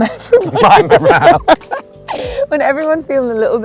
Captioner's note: laughter